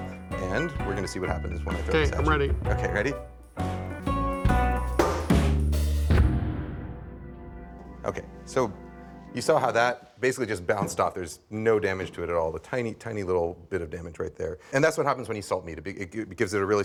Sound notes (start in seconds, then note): 6.0 loud thud